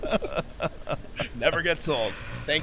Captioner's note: laugh